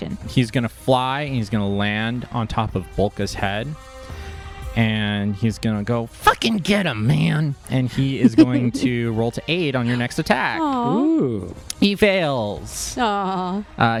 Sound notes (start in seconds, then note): 9.8 laughing